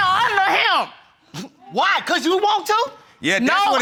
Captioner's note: scoffs